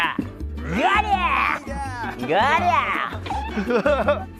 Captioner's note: continuous magical PA voice